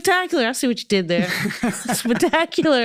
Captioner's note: both laughing